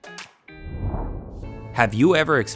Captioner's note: light music; air whooshing